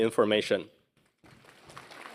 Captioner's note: applause